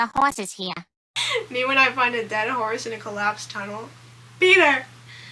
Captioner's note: laughing